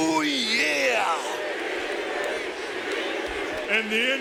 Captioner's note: audience booing